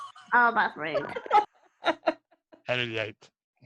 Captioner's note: laughs